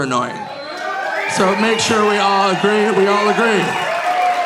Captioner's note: audience cheering